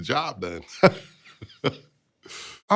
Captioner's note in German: lacht